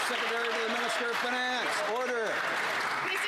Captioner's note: some Applause